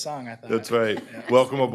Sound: laughter

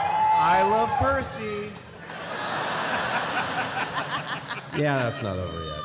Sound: laughter

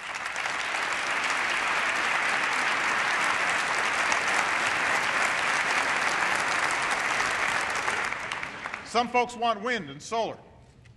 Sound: cheering and applause

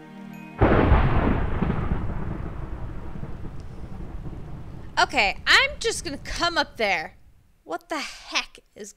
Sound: thunder

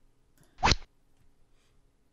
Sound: rod sound

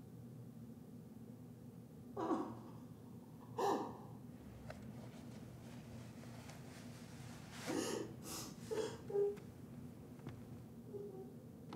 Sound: muffled crying

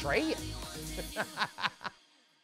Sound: laughing

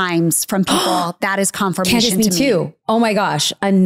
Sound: gasps

